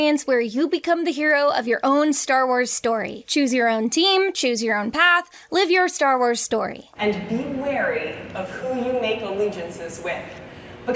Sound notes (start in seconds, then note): none